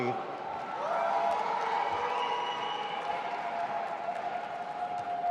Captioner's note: audience applauding